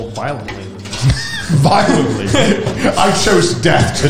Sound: laughs

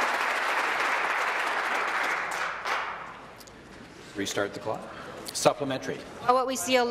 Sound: applause

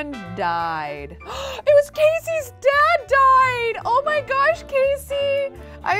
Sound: gasps

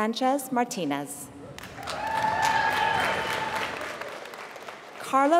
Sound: applause

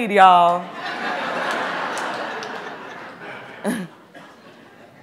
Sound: audience laughing

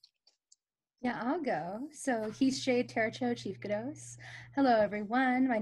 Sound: speaks foreign language

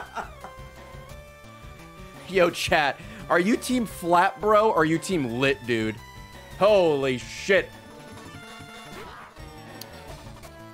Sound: laughs

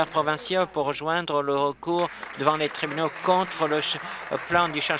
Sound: applause

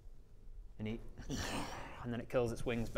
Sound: disappointed snarl

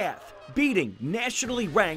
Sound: sounds of state celebration

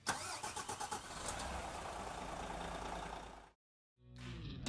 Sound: car engine starting up

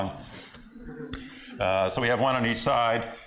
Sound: laughter

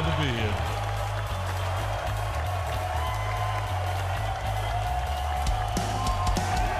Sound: crowd cheering; rock music

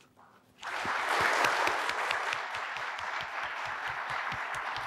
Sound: audience applauding

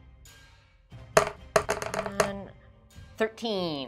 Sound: epic music; dice thudding

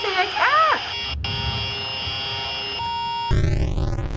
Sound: in game: static buzzing

